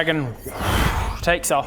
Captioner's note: woosh